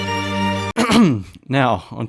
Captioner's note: throat clear